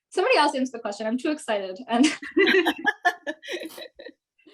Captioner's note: all laughing